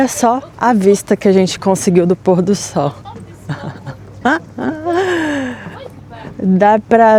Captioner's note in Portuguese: risadas